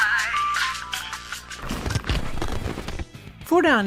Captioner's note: static noise